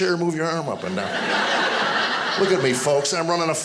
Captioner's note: audience laughing